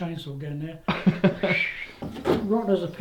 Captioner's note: laughter